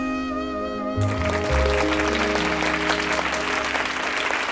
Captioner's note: audience applauding